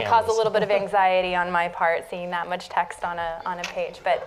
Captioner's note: laughter